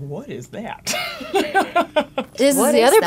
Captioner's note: laughs